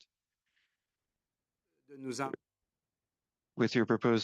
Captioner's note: speaking French